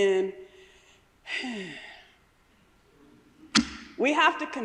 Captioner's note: sighing